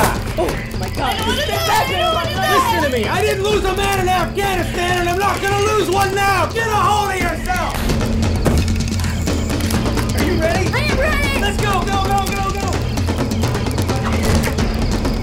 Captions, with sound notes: - Oh my God, this is the best day of my life! - I don't want to die! - I don't want to die! - Listen to me! - I didn't lose a man in Afghanistan and I'm not going to lose one now! Get a hold of yourself! [SLAP] [BODY DROPS] [GUN RELOADS] - Are you ready?! - I am ready! - Let's go, go, go, go, go!